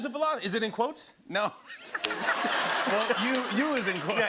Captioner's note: laughter